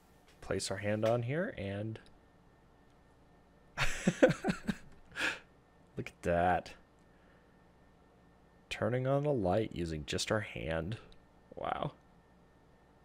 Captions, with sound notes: Place our hand on here and... [Laughing] Look at that! Turning on the light using just our hand! Wow.